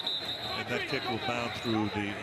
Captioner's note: whistle